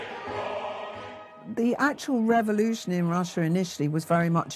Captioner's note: Welsh